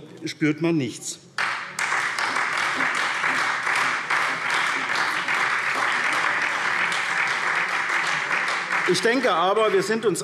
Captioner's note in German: Beifall SPD und Freie Demokraten